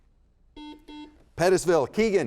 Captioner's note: buzzer beeps